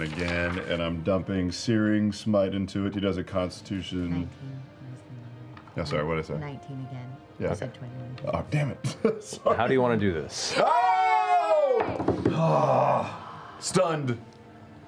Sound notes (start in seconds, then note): 8.8 laughing; 10.5 cheering